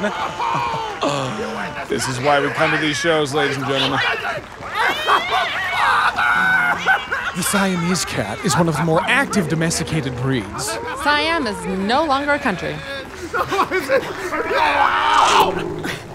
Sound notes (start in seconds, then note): 0.1 muffled screaming; 4.4 screaming; 13.2 Peter whimpering, cat yowling